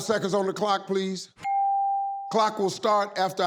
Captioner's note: clock beeping